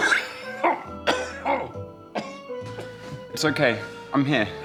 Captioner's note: coughs